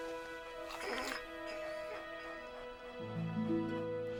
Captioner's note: Buck whines